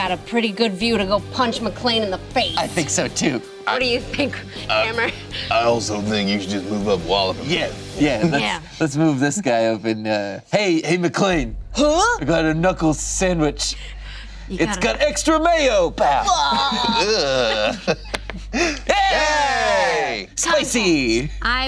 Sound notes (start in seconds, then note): 16.0 groaning; 18.9 cheering